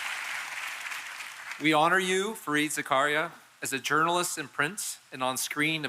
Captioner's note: applause